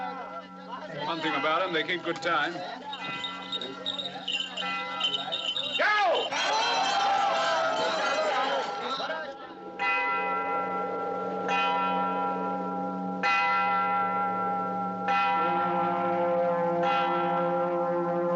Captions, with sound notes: One thing about them, they keep good time. - Go! - [ Shouting, Chattering ] [ Tolling Continues ] ??? [ Horns Blowing ]